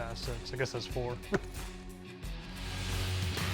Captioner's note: laughing; upbeat music